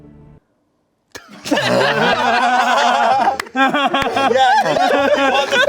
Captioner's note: everyone laughing